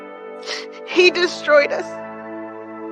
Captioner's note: sniffles